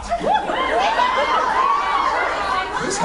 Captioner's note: laughs, cheers